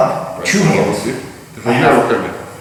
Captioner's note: speaking in a foreign language